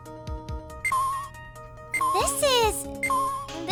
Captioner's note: slow beeping